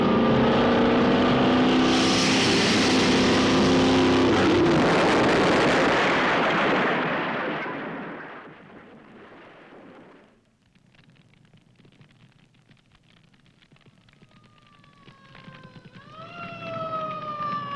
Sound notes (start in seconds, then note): 1.8 hissing; 4.6 explosion booming; 14.2 sirens wailing